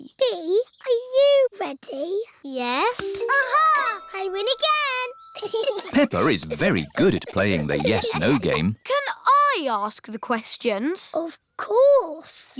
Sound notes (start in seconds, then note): 5.3 chuckles